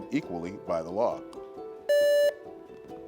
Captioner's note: buzzer beeps; gentle music